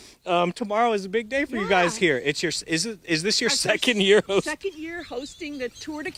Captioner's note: laughter